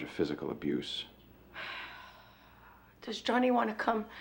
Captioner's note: sighs